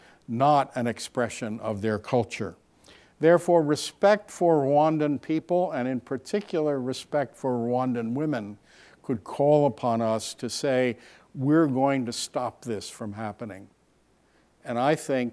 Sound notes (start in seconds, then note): none